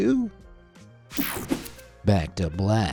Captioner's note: screen whooshing